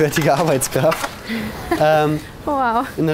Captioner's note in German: Lachen